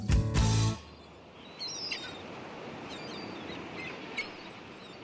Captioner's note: birds calling